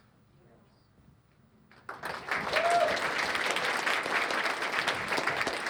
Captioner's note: cheers and applause